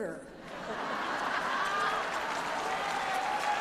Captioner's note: laughter